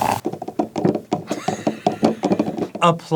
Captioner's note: water pouring; clunky stirring